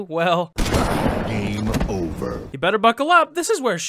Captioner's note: crash